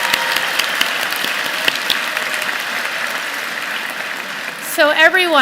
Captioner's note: applause